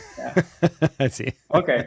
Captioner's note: laughs